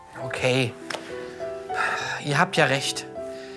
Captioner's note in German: seufzend